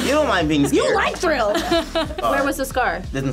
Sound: laughs

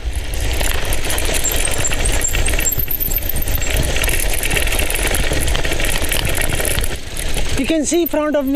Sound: cycle Riding Sound

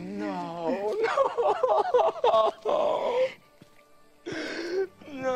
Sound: crying

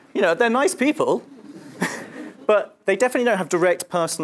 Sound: laugh

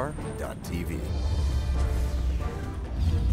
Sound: voiceover

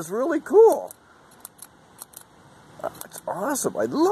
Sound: clicking pen sounds

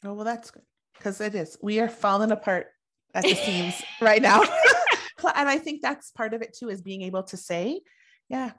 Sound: laughing

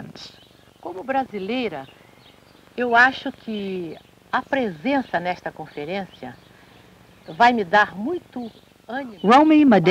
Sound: speaking Portuguese

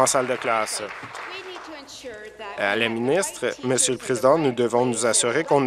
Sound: applause

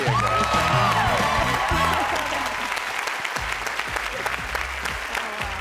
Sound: cheering and clapping

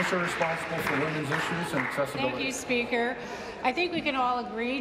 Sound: applause

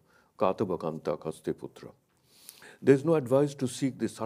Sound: speaks in a foreign language

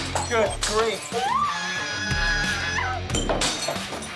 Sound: screaming

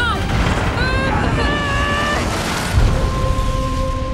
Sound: grunting

